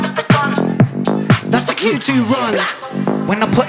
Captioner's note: blat